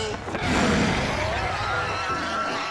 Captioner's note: rabbits snarling